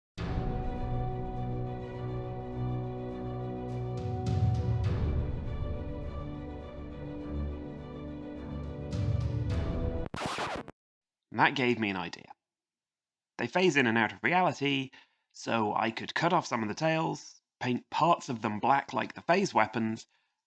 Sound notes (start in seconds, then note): 0.2 dramatic music; 10.0 record skips, stops